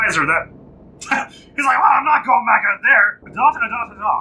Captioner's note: laughs